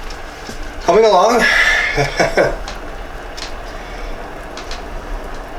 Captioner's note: laughs